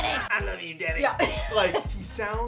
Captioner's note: laughs